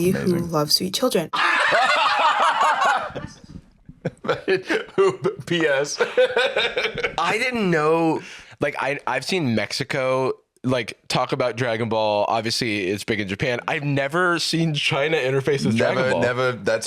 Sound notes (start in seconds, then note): 1.3 both laughing; 3.9 laughs